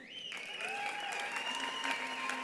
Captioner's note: attendees whistling; attendees applauding; attendees cheering